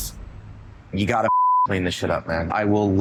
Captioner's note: beep